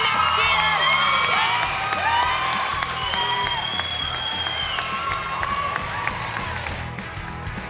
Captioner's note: cheering and applause